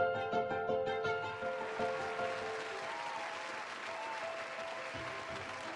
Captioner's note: audience cheers and applauds